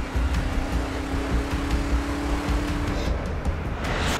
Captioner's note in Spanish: Sonido de los camiones